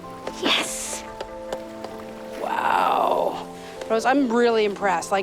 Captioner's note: tapping